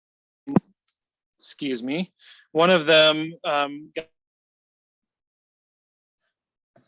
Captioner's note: audio drops out; audio drops out